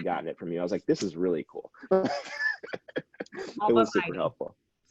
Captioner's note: laughing